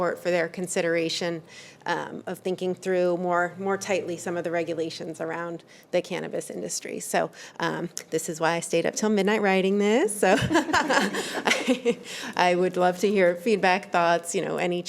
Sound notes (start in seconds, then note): 10.3 trustees chuckling